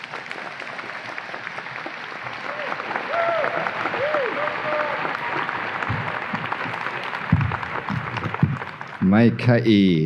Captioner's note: audience applause